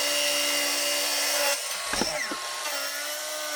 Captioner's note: saw grinding